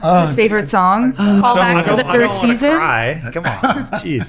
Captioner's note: laughing